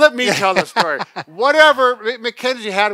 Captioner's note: laughs